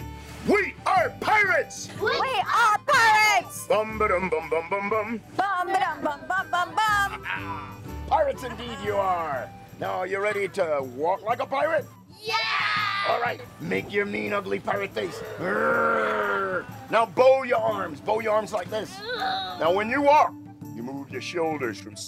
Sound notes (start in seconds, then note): 7.4 laughs; 15.0 growls